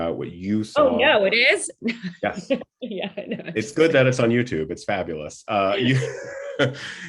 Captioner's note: laughter